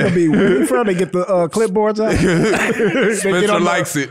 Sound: laughs

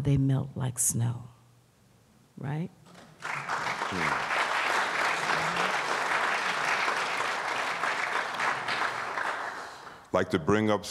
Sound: applause

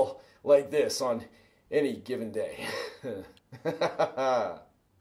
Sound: laughs

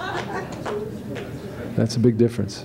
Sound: laughter

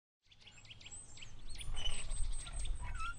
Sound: birds chirping; swing squeaking

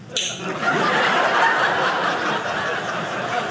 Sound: audience laughing

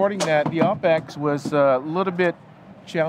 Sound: object banging

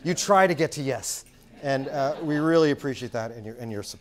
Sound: laugh

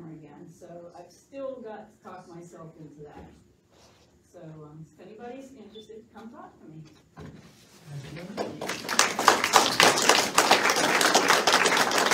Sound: applause

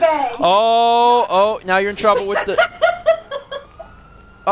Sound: laughs

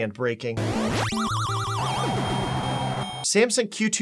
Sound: video game sounds

